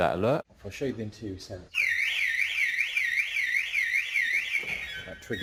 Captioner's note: alarm sounds